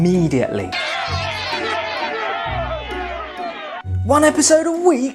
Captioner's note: crowd shouting